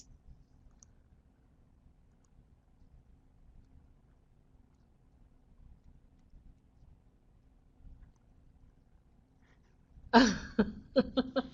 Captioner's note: no sound - waiting for questions